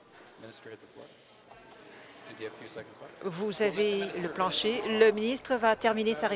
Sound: conversation din

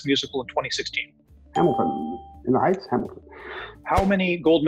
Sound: ding

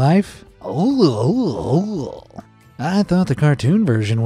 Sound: all gaging

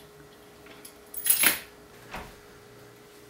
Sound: key sounds

